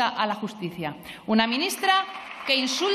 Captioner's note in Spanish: Aplausos